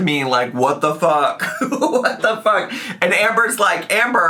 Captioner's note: laughs